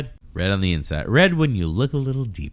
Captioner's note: uh